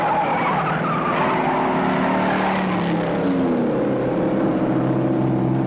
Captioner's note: engines roaring